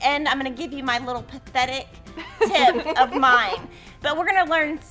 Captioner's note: laugh